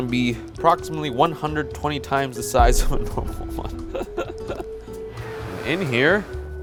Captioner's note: laughs